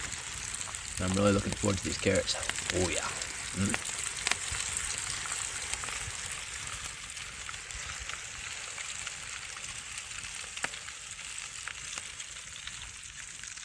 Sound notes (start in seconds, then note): 6.1 applause from the fire